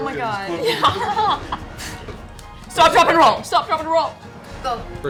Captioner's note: laughs